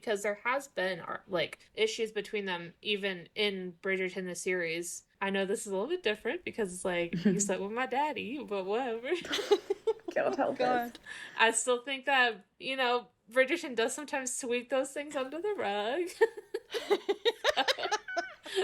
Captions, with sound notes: because there has been issues between them, even in Bridgerton the series. I know this is a little bit different because it's like, you slept with my daddy, but whatever. (laughing) - God help us. - God. - I still think that, you know, Bridgerton does sometimes sweep those things under the rug. (laughing)